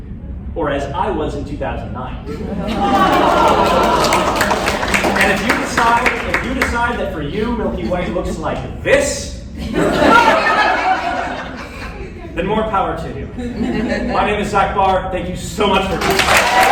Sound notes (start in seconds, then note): 3.0 applause; 9.5 laughter